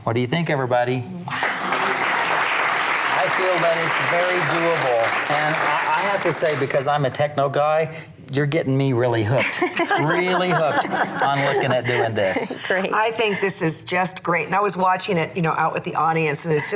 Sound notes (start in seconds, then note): 1.3 audience applauds; 9.5 laughs